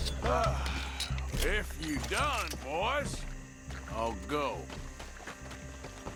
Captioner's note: sighs